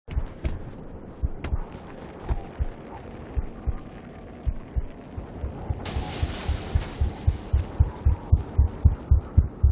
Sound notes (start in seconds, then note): 0.1 wind howling, heart thumping; 4.4 thumping faster, louder